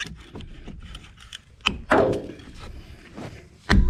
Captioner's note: thud